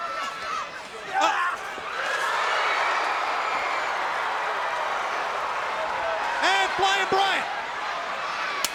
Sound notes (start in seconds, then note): 2.2 crowd roaring